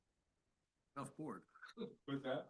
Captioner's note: laughs